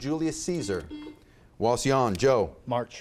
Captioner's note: buzzer beeps